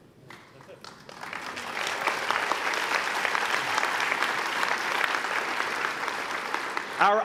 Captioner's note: applause